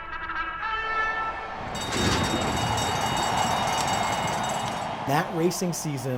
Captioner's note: racing bugles calling; audience cheering; bell ringing